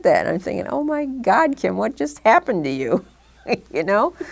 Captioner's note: chuckle